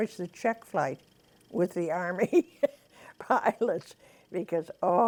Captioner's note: laughs